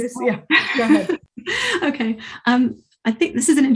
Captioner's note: laughs